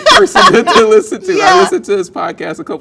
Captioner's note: laughing